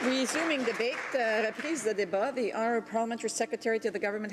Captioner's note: some applause